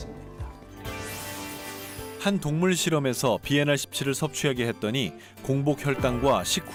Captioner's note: voiceover